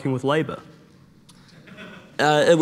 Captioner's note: attendee laughing